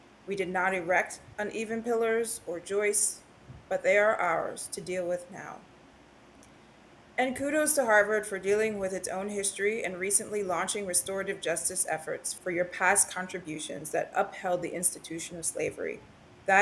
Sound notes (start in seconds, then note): none